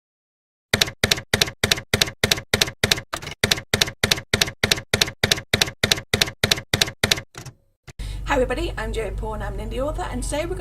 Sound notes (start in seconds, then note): 0.7 typewriter keys clacking